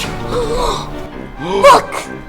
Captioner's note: gasps